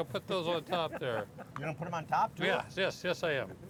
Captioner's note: laughing